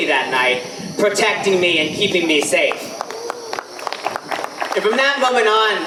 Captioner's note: audience applause